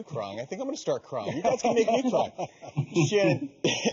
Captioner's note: laughing